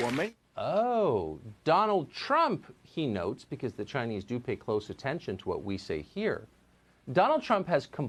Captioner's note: applause